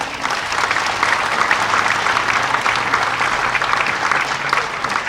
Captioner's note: audience applauding; audience laughing